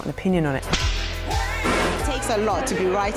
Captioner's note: whip sound